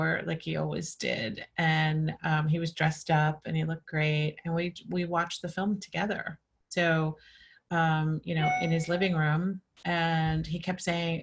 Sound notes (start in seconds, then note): none